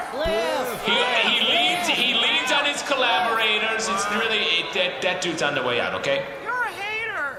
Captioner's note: sounds of dismay from the audience; audience chanting Bliff’s name